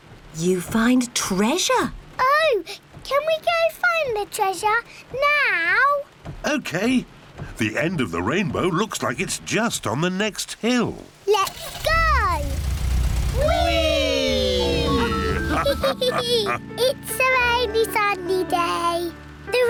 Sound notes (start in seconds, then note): 14.2 all laugh